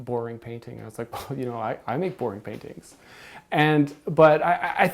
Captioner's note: scoff